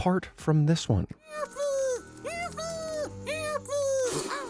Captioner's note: fly crying